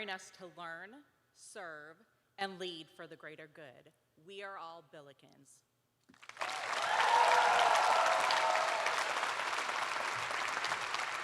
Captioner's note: cheers and applause